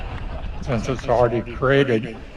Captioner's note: laughter